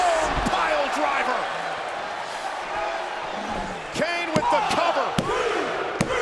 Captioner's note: applause